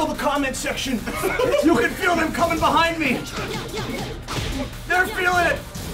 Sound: laugh

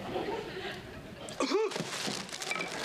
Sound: coughs

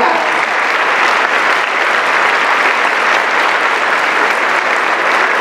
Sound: applause

